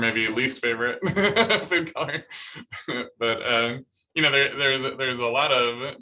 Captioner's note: laughter